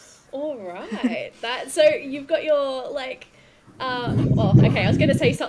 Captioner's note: intense thunder noises